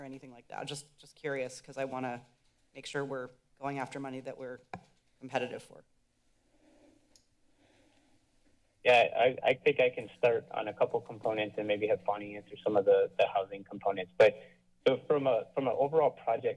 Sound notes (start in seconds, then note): none